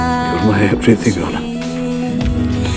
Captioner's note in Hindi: none